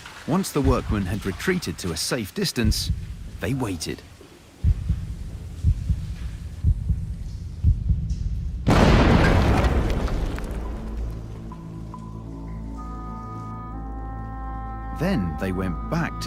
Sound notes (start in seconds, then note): 8.6 explosion